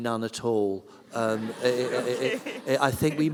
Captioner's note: laughter